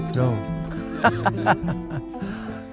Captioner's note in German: er lacht